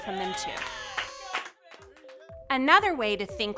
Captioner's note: people cheering